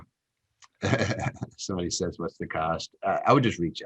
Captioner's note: laughs